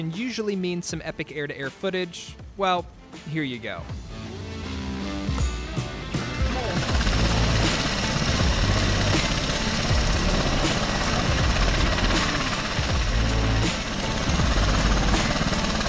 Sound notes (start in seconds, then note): 4.1 blades whirring; 4.1 energetic upbeat music